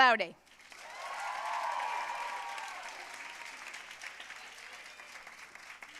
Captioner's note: audience cheering and applauding